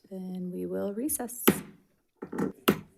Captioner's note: gavel thudding